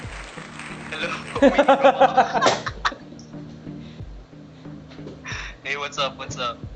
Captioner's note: laughs